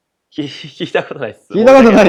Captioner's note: laughs